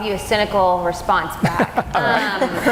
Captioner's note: laughing